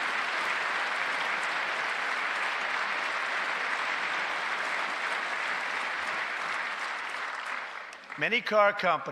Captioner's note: applause